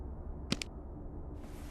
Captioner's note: click